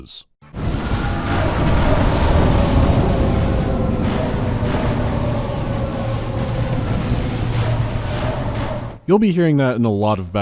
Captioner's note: bombs resonate with loud, wailing echoes